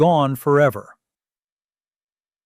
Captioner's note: pause